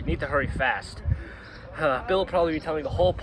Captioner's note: totally real sigh